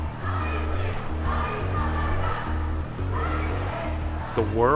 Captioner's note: chanting